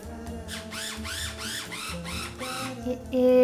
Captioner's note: blender whirring